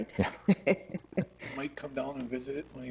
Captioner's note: people chuckle